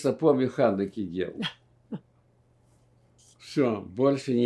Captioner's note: laughing